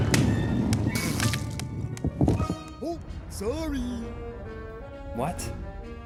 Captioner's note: game audio